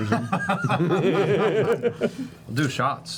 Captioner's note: laughter